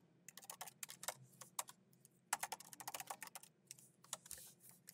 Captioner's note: keyboard clacking